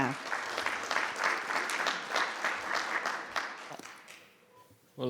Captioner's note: audience applauding